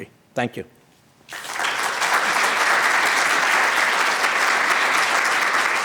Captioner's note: applause